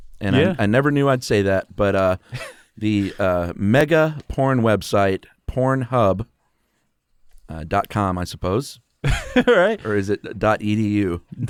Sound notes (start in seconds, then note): 9.0 laughs